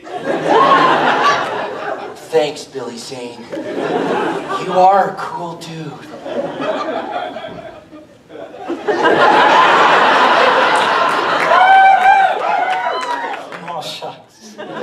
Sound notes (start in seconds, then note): 0.0 audience laughter; 8.7 audience laughter